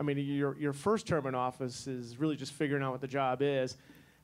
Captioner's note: none